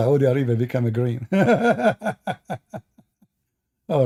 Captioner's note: Ketawa